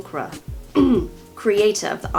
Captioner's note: clears throat